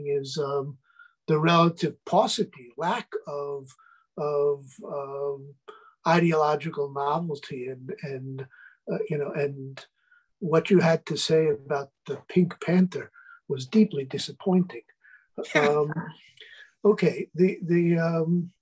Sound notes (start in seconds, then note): 16.9 chuckles